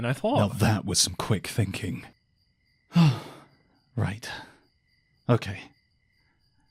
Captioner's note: sighs